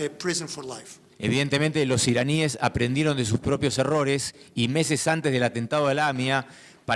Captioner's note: speaking in foreign language